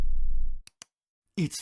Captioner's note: bass drop; click